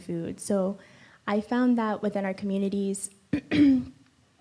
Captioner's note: clears throat